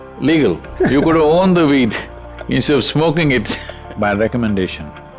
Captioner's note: laughs